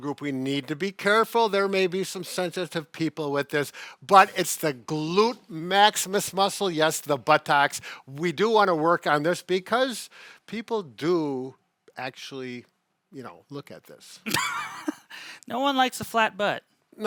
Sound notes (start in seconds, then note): 14.2 laughs